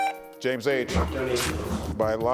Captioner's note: buzzer buzzing